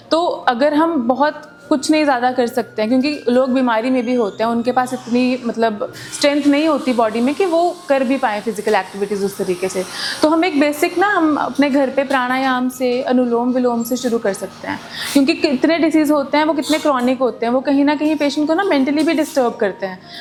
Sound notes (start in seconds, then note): 11.8 breathing exercise; 13.5 alternate breathing